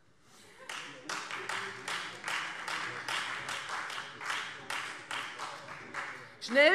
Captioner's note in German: Beifall Freie Demokraten und SPD